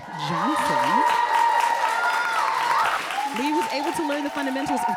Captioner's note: audience applauding